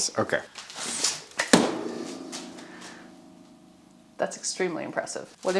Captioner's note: metal bangs